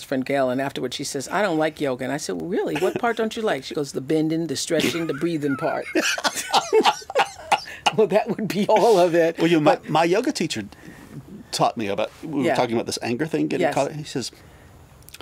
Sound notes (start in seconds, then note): 4.8 both laugh